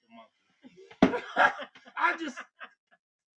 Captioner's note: laugh